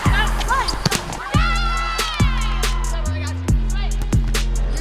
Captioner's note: player cheering